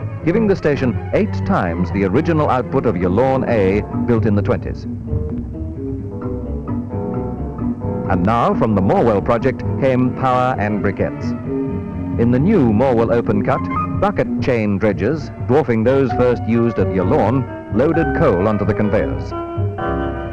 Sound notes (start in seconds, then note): none